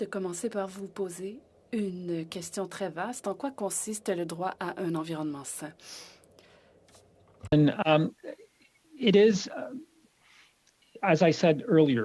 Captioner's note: speaking French